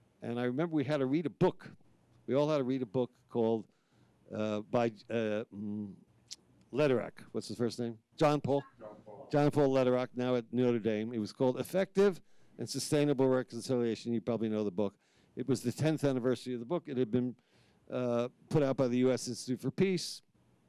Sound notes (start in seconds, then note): 8.6 speaking faintly